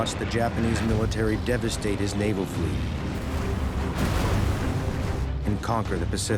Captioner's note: explosion